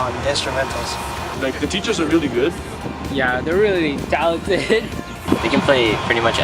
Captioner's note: laughs